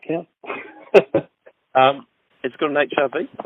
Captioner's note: laughs